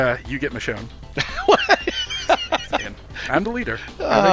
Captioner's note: laughing